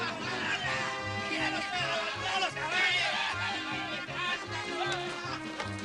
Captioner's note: hooting and hollering